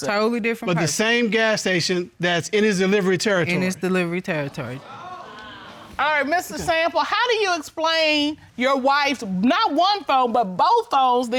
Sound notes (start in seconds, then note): 4.8 audience exclaiming